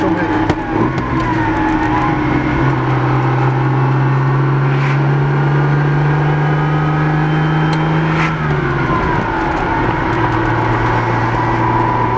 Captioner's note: 246 engine sound